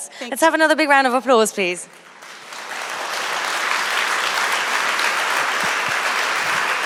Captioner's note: applause